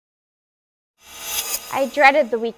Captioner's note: whizzes